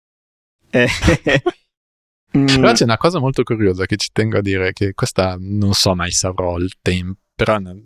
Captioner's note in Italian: risate